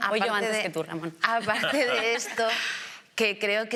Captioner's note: laughter